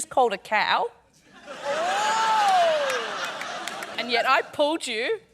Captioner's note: laughter